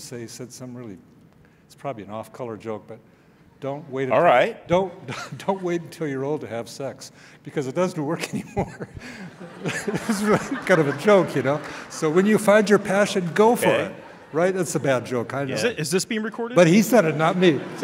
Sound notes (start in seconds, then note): 9.3 laughing